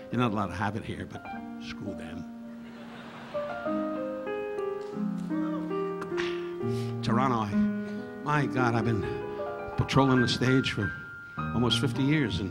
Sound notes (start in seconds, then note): 2.6 audience laughing; 5.1 relaxing piano music continues